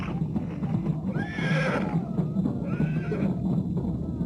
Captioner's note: horse whinnying